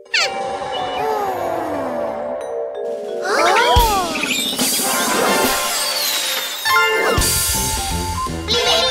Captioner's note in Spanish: Sonido de pájaro